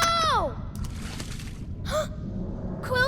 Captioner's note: lava splashes, munroe gasps